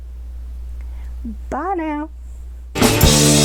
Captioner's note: southern accent